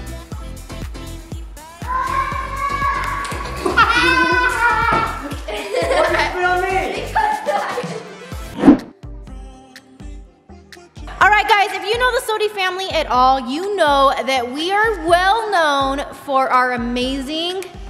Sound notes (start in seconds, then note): 3.3 water splashes; 3.5 laughs